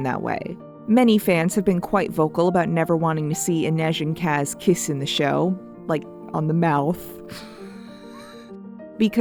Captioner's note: me giggling like a child